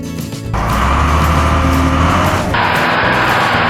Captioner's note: Rock Truck Engine Sound; scraper Engine Sound